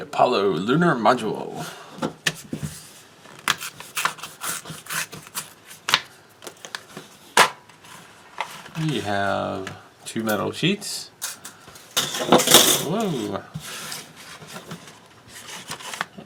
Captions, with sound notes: The Apollo Lunar Module. [tearing sounds] We have... two metal sheets. [metal crashing] Whoa..